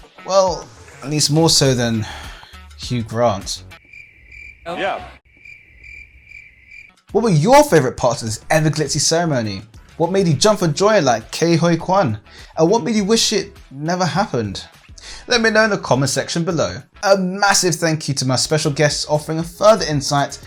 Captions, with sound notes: Well, at least more so than Hugh Grant. *crickets* “Yeah.” *crickets* What were your favorite parts of this ever glitzy ceremony? What made you jump for joy like Ke Huy Kwan? What made you wish it never happened? Let me know in the comments section below. A massive thank you to my special guest offering a further insight